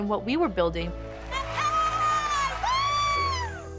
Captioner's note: shouting and cheering